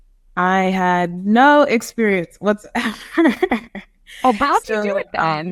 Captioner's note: laughs